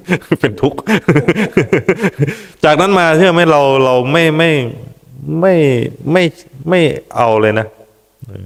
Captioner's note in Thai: เสียงหัวเราะ